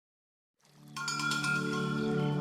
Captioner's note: peaceful music; cowbell clangs